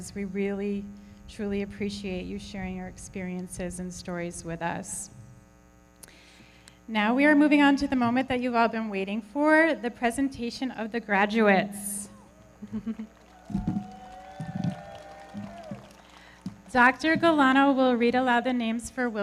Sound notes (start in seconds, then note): 12.0 audience cheering; 12.1 everybody clapping